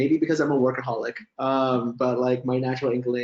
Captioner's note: chuckles